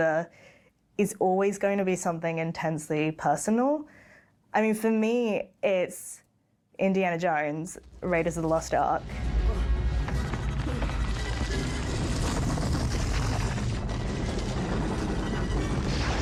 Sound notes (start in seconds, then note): 9.9 suspenseful music; 12.8 boulder rumbling